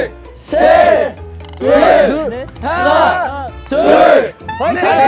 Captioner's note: bones creaking beautifully